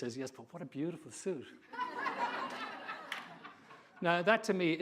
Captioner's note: audience laughing